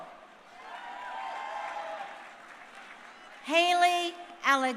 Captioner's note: crowd cheering